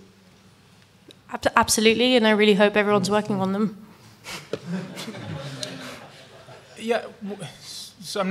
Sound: laughter from audience

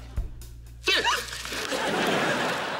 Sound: gasping

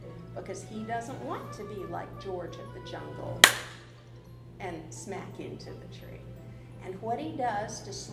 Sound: claps

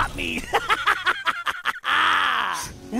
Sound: laughing

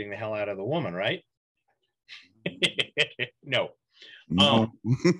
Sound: laughs

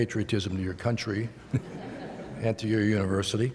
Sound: laughter

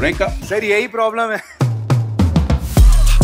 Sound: laughs

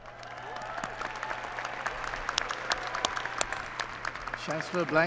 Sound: applause

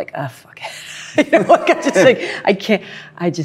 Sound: laughs

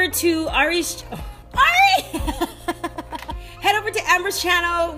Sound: laughing

